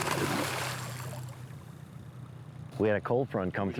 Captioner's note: water splashes